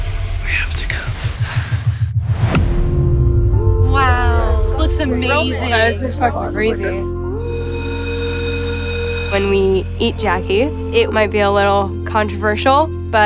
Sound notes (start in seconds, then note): 7.3 bell ringing